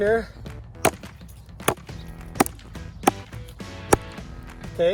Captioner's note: ax chopping